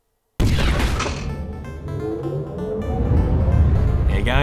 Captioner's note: boom; techie music